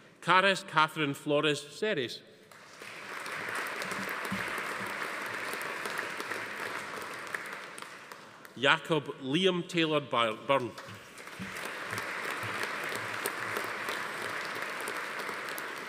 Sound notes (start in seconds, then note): 2.5 audience applauding; 11.0 audience applauding